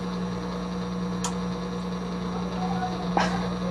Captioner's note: machine whirring